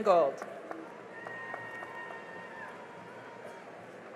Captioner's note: cheering and applause